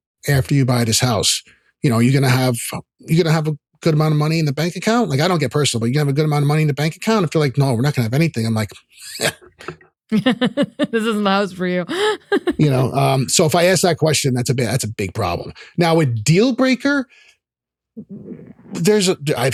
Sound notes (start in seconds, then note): 10.1 laughs